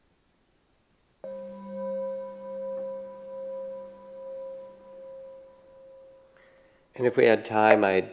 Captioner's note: singing bowl chimes